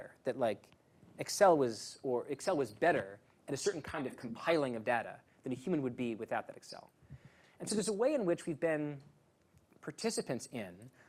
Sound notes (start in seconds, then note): none